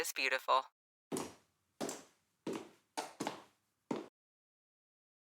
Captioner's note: footsteps tapping